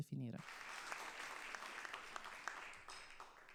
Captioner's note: applause